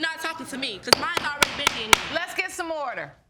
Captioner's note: gavel pounding